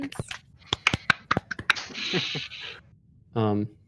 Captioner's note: applause